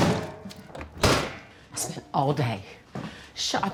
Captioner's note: bin lid clattering; dish thumping